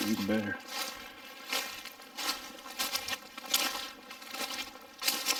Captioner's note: leaves crunching